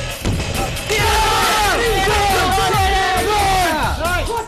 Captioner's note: shouting